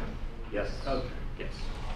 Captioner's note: voiceover